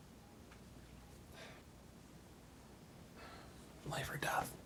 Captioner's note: Randall sighs